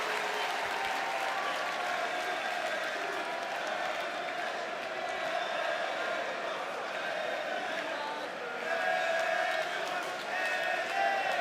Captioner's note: cheers and applause